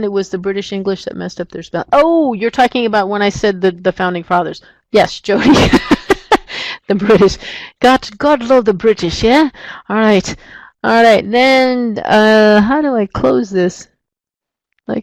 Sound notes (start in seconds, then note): 5.4 laughs